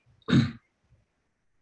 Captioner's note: clears throat